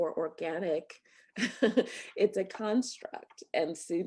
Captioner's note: laughter